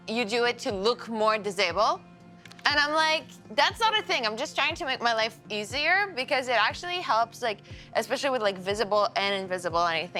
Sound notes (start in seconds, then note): none